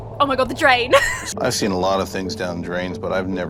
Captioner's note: laughs